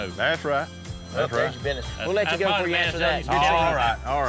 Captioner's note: cell phone rings